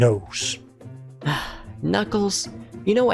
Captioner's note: sighs